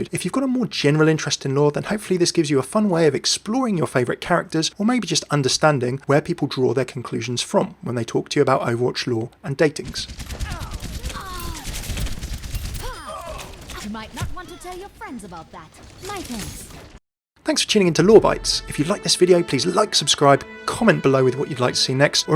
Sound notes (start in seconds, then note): 10.2 gunshots firing; 11.1 groaning